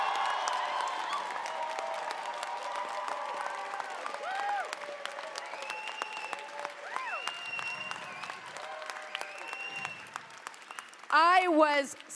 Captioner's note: cheers and applause